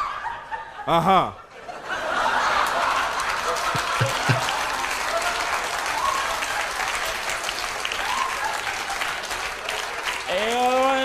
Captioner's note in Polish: Aplauz